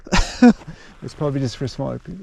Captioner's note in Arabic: يضحك